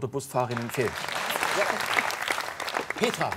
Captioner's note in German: Applaus